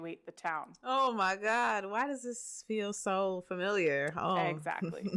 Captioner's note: laughs